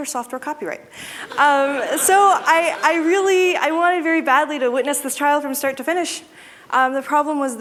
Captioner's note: laughter